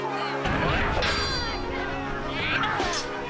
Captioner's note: metal clanging